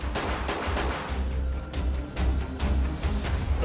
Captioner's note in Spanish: Disparos